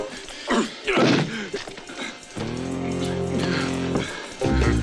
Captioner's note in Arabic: صفعات القدم